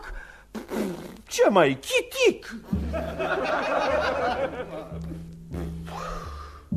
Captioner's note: laughter